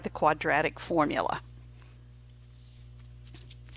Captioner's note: silent